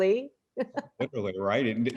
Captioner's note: laughs